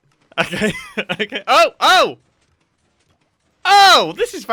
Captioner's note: laughing